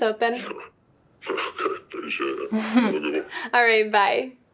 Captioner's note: altered male voice